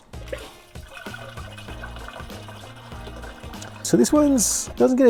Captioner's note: toilet flushing